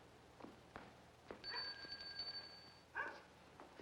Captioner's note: doorbell rings